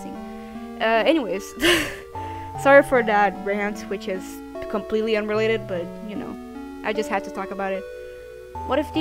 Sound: laughs

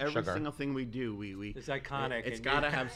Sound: laughs

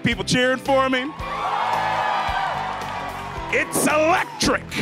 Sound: cheering

